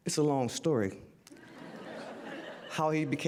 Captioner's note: audience laughter